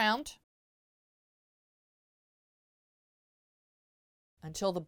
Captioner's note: no Sound Present